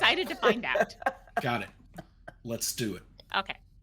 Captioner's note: person laughing